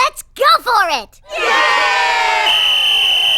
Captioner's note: whistle blows